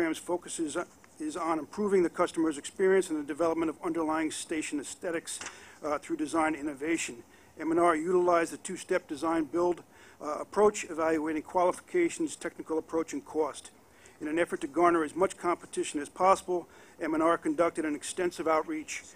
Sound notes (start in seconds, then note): none